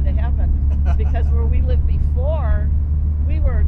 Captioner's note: laughing